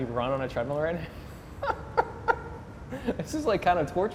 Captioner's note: laughing